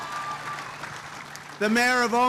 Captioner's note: applause